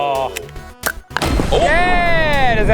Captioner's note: gun pops; crash